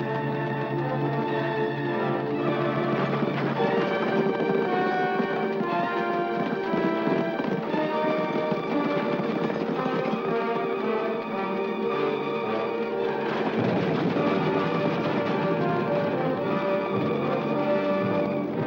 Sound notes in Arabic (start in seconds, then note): 0.0 أصوات عربات الخيل; 0.0 موسيقى درامية; 1.9 ضربات حوافر; 1.9 موسيقى درامية; 12.9 أصوات عربات الخيل; 12.9 موسيقى درامية